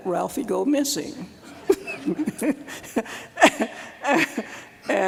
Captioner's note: laughter